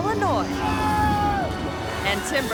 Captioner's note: airplane whirring; man yelling